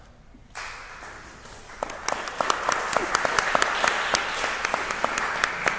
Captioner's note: applause